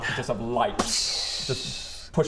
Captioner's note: bsssstch!